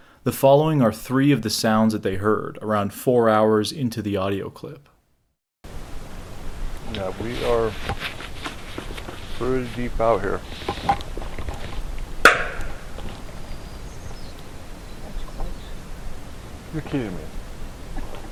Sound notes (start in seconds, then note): 12.3 knocking